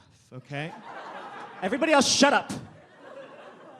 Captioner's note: audience laughs